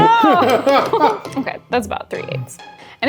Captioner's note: laughing